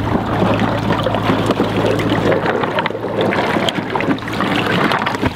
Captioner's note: car frame scraping